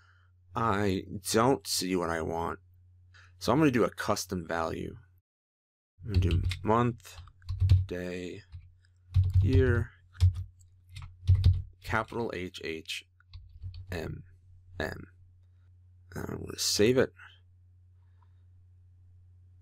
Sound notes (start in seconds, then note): 7.1 typing; 10.9 typing